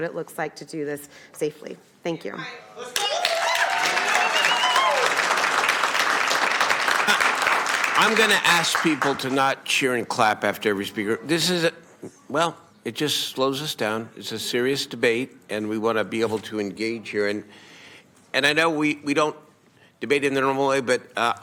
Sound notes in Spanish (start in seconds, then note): 7.7 Aplausos